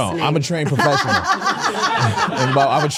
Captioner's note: Stephanie laughing